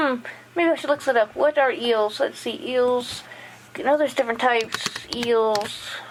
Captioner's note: tiptip tap